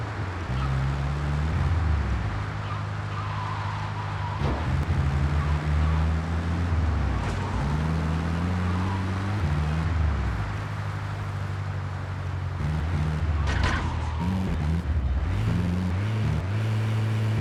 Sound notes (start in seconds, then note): 1.2 plane engine roaring